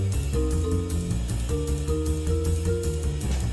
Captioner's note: none